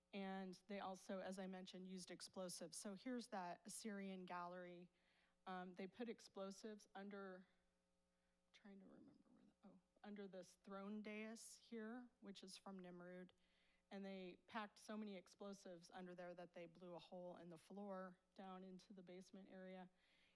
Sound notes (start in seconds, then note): 8.6 whispers